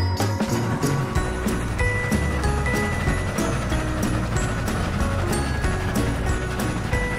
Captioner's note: train chugging